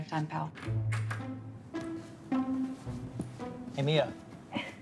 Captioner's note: door clicking; jaunty music